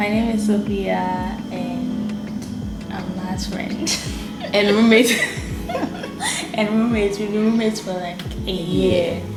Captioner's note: both laugh